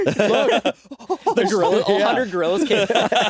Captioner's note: monkey noises